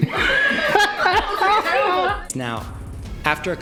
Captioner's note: laughter